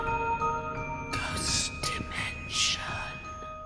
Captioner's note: whisper